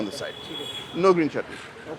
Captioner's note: speaking in foreign language